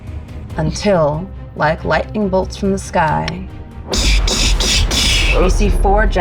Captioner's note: slurping; imitating lightning crashing